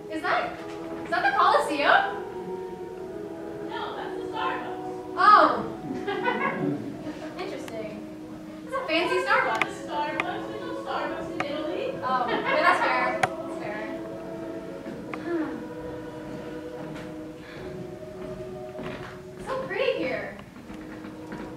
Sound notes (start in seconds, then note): 15.1 sighs; 18.8 footsteps plodding